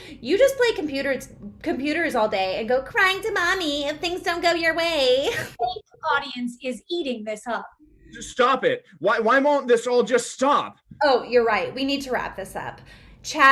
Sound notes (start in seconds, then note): 5.2 laughing